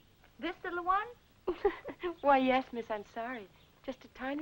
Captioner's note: laughing